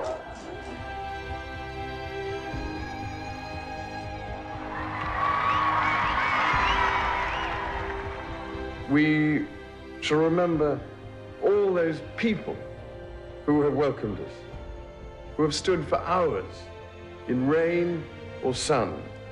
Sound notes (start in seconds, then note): 0.2 gentle symphony music; 4.3 audience cheering